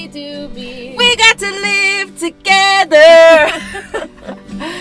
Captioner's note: laughter